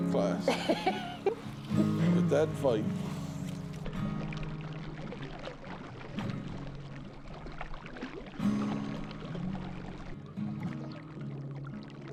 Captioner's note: laughing